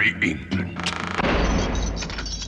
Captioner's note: cell door creaks and slams shut